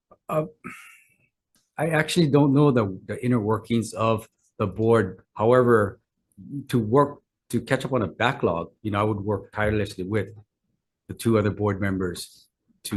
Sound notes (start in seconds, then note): 0.6 sighs